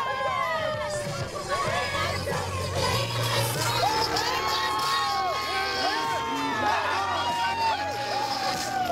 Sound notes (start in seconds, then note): 3.2 cheering